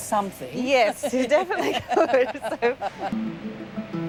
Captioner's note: laughs